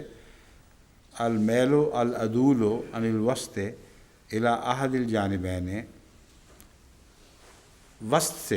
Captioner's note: Arabic